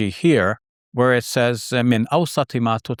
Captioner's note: speaks in foreign language